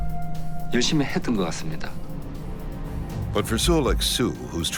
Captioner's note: speaking foreign language